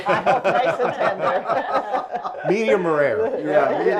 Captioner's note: laughs